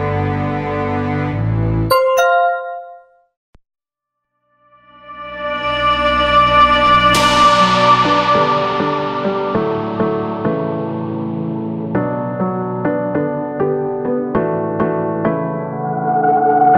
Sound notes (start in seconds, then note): 1.9 notification Sound; 9.2 music Intro